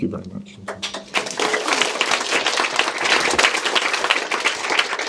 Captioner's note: audience applause